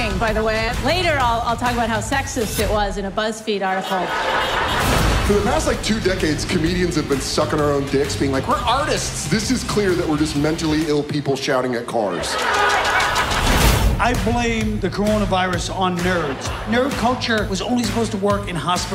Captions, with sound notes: Later I'll-- I'll talk about how sexist it was in a Buzzfeed article. (LAUGHTER) For the past like two decades, comedians have been sucking our own dicks, being like, "We're artists!" This is clear that we're just mentally ill people -shouting at cars. -(CARS HONKING) I blame the coronavirus on nerds. Nerd culture was only supposed to work in hospitals.